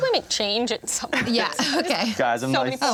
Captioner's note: chuckles